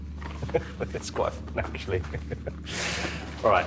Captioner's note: laughs